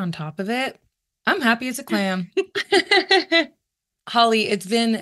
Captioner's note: chuckles